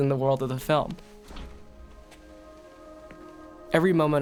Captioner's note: door quietly opens